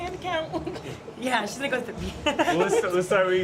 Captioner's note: laughter